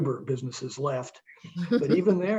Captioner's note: laughing